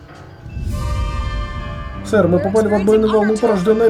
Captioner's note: low rumble